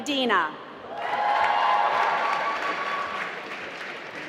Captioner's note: applause